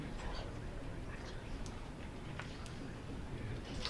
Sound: audience murmuring

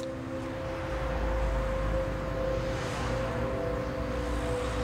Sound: cars whooshing

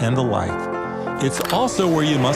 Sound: camera clicks

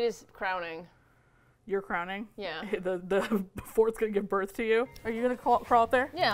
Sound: laughs

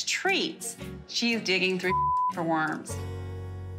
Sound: beep

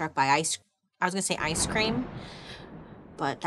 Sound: thunder crashes

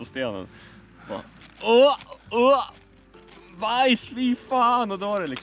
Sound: making puking sounds

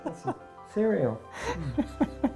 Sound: laughs

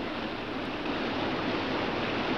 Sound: water roars

